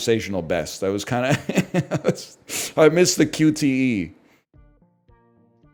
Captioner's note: laughs